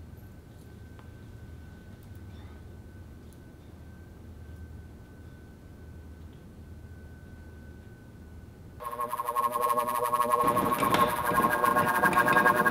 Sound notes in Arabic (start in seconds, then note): 8.7 تشويه الموجات الراديوية